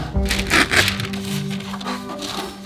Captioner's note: paper ripping